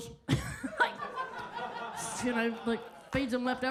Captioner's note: audience laughs